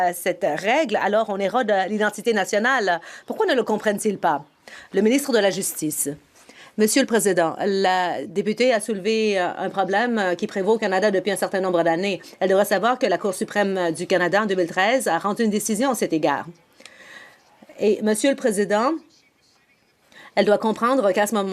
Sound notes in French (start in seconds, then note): 10.8 voix de l'interprète